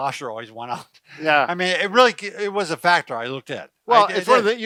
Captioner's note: chuckles